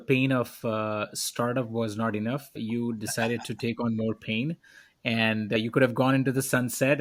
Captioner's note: laughs